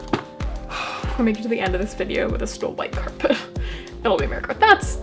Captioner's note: sigh